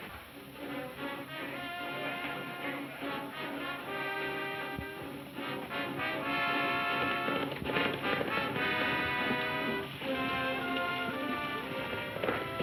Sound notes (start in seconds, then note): 0.3 dramatic music; 6.9 hooves thudding